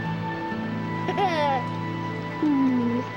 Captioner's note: laughing